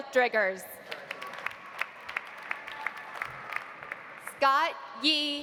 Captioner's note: audience applauding